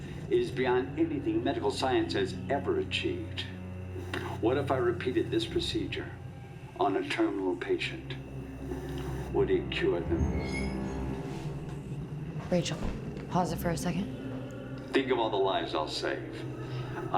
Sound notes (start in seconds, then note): 10.0 object creaks